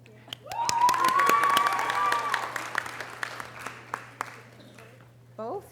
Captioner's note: audience cheering and applause